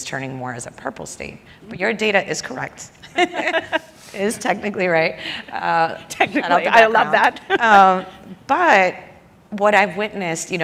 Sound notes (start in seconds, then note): 3.1 laughs